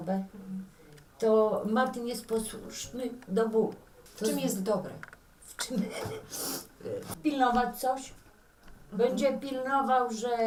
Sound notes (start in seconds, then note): 5.7 laughs